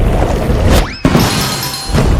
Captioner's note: bell dings